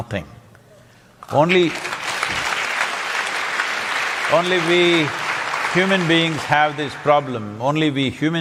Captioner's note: applause